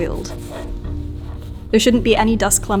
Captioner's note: towel rustles